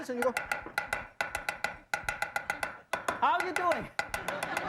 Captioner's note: chopping